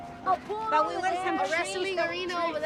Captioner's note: group chattering